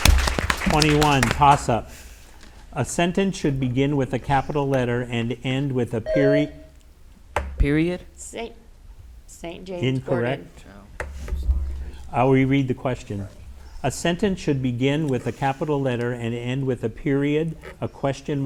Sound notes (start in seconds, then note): 0.0 audience applauds; 6.0 bell rings